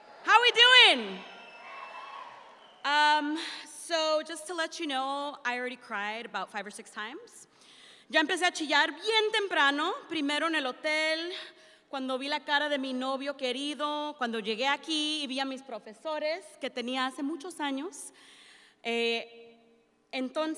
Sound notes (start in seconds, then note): 1.0 audience shouts in response; 8.3 speaking in Spanish